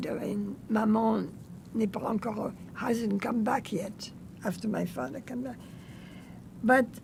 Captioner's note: french